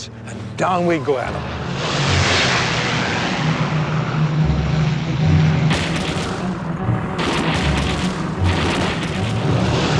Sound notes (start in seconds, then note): 1.2 aircraft engine roars; 6.9 gunshot fire